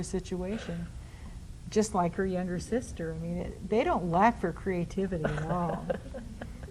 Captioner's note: laughs